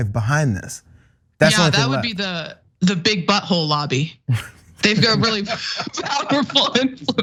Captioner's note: laugh